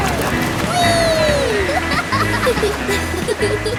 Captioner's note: laughing